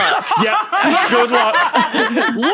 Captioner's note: guests laugh uproariously